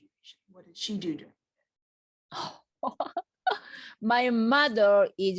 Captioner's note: laughs